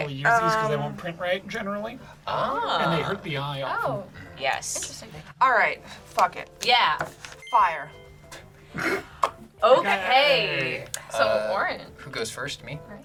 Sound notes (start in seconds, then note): 8.0 word twinkles; 8.7 snorts